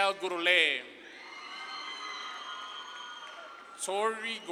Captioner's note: audience claps and cheers